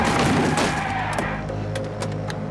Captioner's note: tires screeching